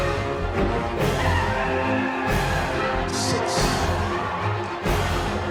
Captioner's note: handler trilling